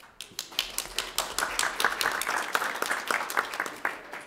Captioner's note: clapping